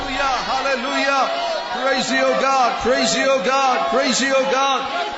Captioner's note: చప్పట్లు